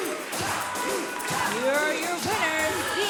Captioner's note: bell ringing